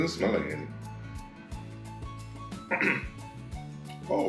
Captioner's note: clears throat